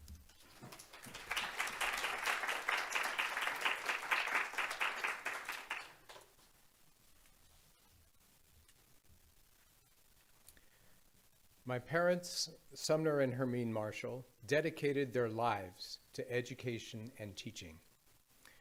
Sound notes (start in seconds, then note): 0.4 audience applauding